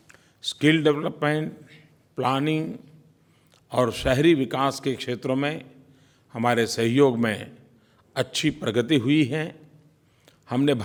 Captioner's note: PM Modi speaks in Hindi